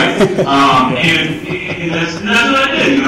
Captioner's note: laughing